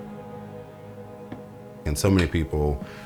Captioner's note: footsteps